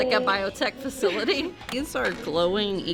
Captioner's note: chuckles